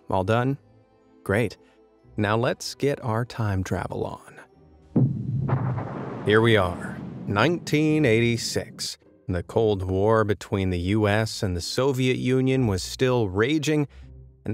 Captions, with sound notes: All done, great. Now let's get our time travel on. (thunder rumbles) Here we are 1986 when the Cold War between the U.S. and the Soviet Union was still raging